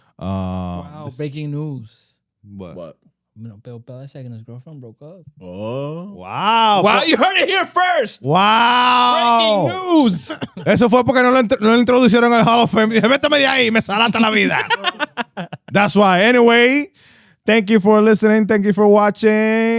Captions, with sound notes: Wow, breaking news. What? What? Bill Bileshank and his girlfriend broke up. Oh, wow. Wow, you heard it here first! Wow! Breaking news! (Speaking In Foreign Language) (Laughing) That's why, anyway, thank you for listening, thank you for watching.